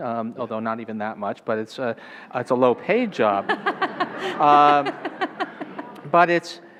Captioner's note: laughing